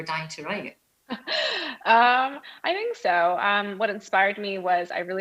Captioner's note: laughs